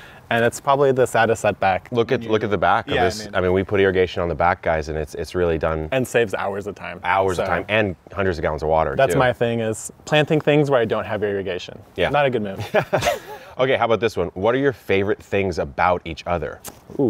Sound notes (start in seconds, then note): 12.6 both laughing